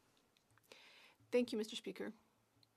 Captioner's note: speaking French